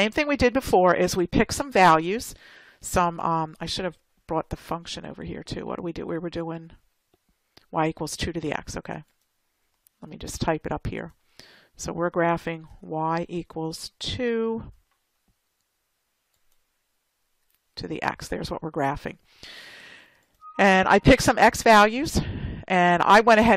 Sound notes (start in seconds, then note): 10.3 typing